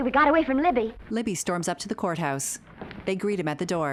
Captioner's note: footsteps marching